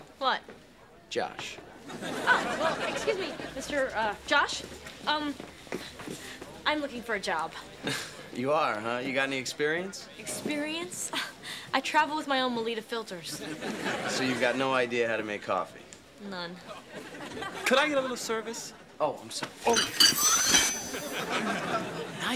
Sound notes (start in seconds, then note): 1.9 audience laughing; 13.4 audience laughing; 16.7 audience laughing; 19.6 glass clattering; 20.4 whirling tune; 20.7 audience laughing